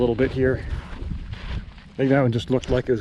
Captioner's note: footsteps thumping